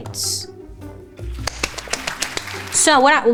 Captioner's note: clapping